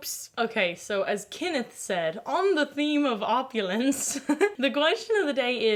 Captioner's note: laughs